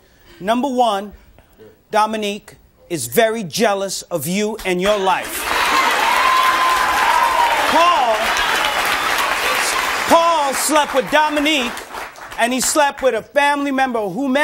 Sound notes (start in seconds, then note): 5.2 audience cheering